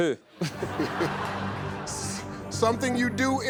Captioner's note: audience laughing